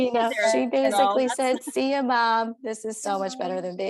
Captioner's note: laughter